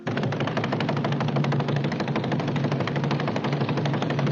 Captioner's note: hands slapping; fists pounding